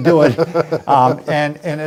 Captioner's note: laughing